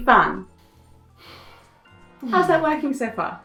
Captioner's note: sighs